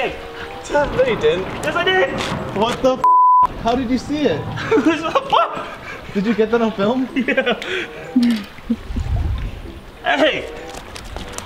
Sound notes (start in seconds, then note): 4.6 laughing